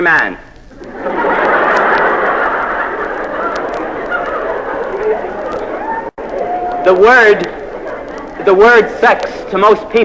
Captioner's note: laugh